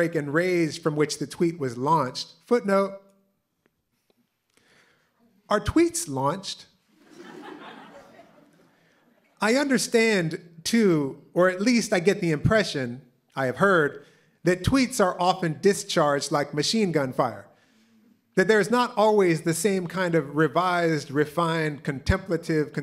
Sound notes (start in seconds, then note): 6.9 laughter